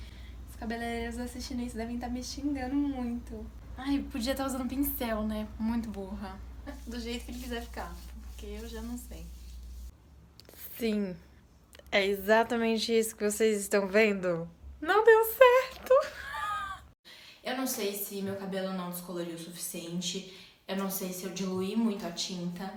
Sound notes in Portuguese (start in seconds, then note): 15.8 risos